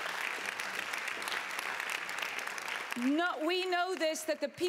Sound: applause

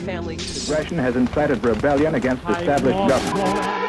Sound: television

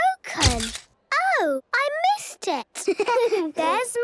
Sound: camera clicks; giggling

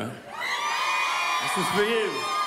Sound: crowd cheering

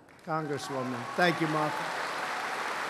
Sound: applause

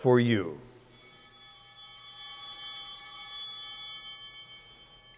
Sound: chimes ringing

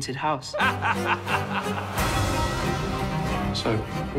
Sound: laughs

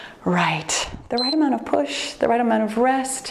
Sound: timer beeps

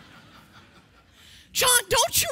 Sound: congregation laughing

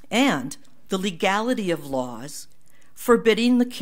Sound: none

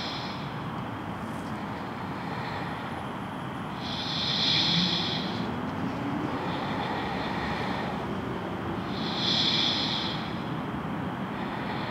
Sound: slow breathing

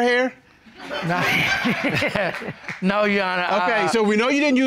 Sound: chuckles

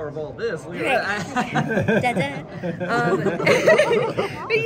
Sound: laughing

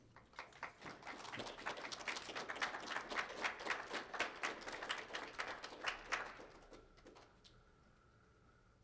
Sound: applause

